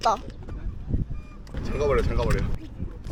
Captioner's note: closed door